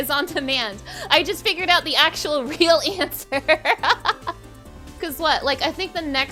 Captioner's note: laughing